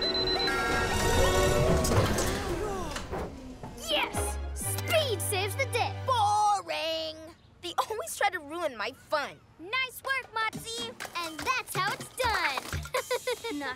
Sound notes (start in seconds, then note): 2.4 sighs of relief; 12.8 giggles